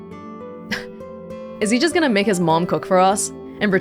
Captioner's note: scoffs